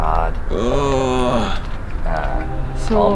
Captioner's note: groaning